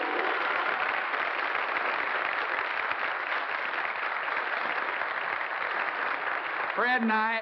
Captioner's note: applause